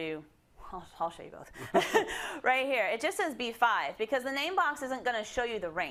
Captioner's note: laugh